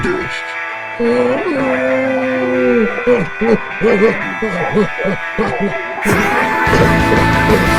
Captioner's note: growl